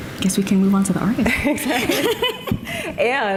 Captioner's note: laughing